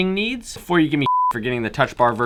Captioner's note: beep